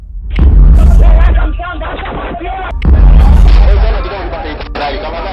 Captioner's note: speaking foreign language